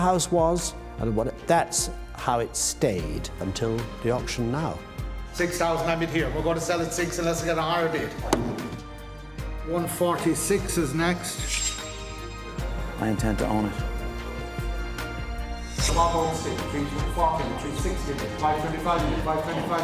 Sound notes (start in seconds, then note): 14.7 auctioneer speaking